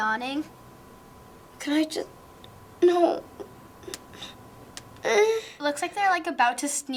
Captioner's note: whimpering